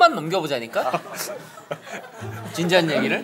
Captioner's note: laughing